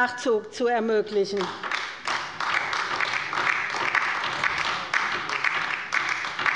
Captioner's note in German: Beifall bei der LINKEN